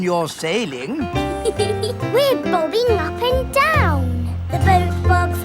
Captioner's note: giggles